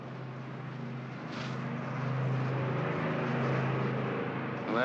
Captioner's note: aircraft rumbles